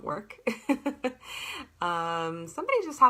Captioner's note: laughter